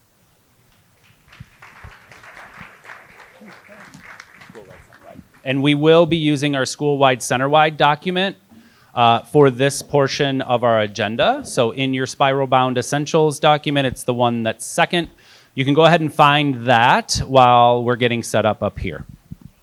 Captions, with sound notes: (applause) And we will be using our school-wide center-wide document for this portion of our agenda. So in your spiral bound essentials document, it's the one that's second. You can go ahead and find that while we're getting set up up here.